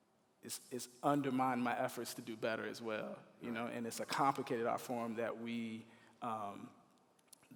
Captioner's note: none